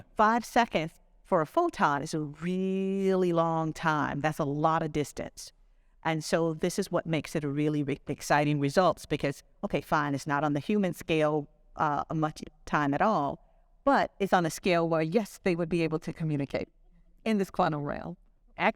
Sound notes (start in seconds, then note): none